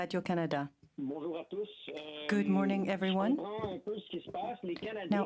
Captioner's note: speaking French